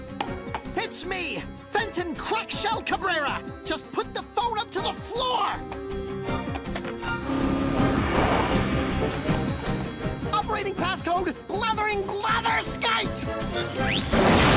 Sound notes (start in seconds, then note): none